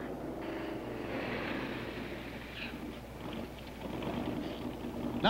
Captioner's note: engine rumbling